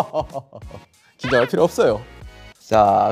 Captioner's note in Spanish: Risas